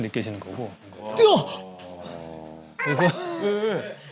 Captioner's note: gasping